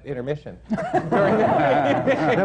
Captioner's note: laughter